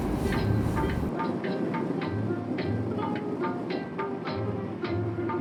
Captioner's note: car sounds